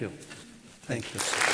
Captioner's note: applause